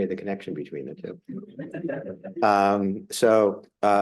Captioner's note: audience laughs